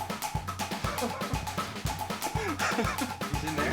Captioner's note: laughter